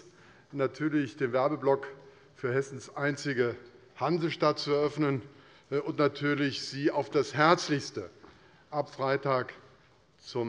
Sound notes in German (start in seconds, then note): none